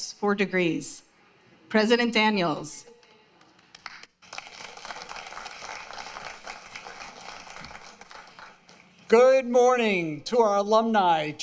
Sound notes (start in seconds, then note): 8.0 applause